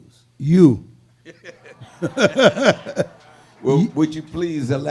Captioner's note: laughing; audience laughing